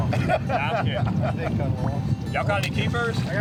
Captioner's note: laughing